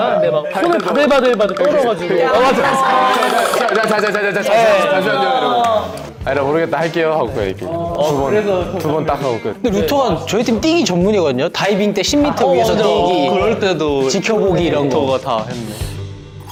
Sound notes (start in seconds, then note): 2.2 shivering